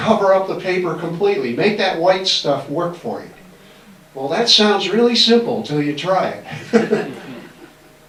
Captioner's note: laughs